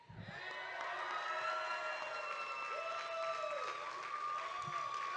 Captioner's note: audience cheering